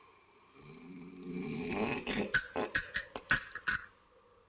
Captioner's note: snoring, gibbering